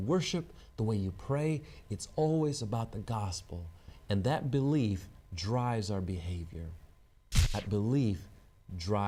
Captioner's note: static